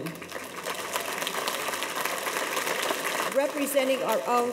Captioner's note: audience applauds